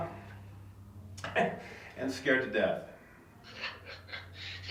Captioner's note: chuckles